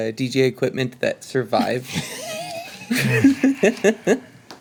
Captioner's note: laughing